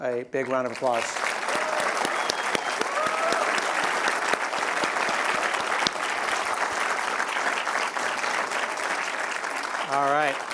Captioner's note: applause